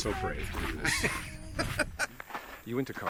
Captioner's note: Sean laughs